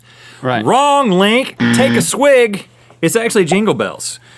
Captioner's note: buzz